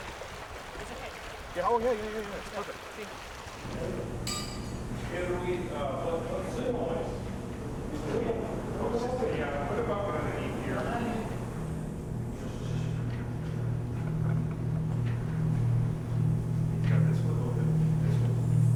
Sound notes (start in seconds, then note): 4.3 tinkle